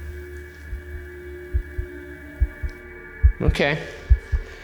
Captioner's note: heart beating